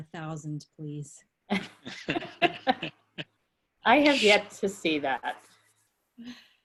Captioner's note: laughter